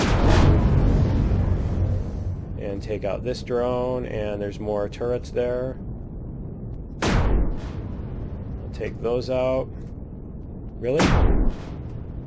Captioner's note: explosion